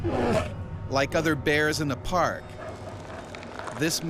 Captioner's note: voiceover